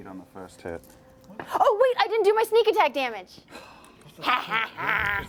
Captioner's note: cackling